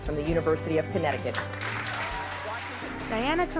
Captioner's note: cheers and applause